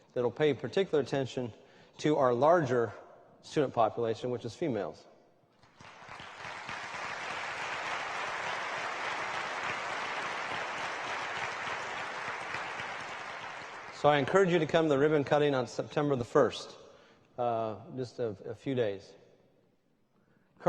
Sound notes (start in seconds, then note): 5.6 applause